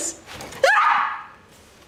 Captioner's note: scream